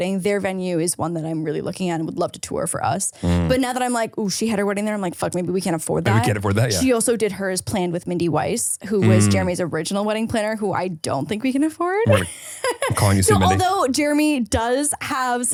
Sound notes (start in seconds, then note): 12.0 chuckles